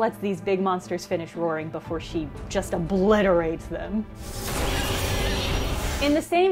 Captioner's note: sound of Samus obliterating this dude